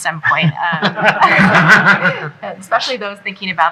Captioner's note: laughs